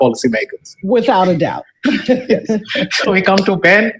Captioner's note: laughs